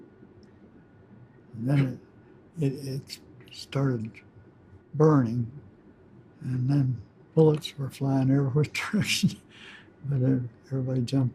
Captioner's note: chuckles